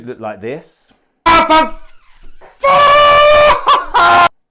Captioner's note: yells